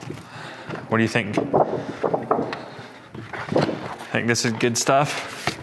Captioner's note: plastic flopping